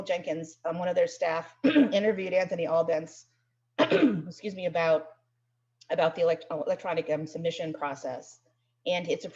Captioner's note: coughs